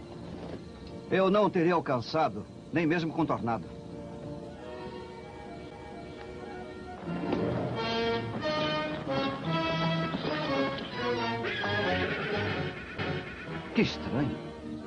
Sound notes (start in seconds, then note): 10.4 whinnies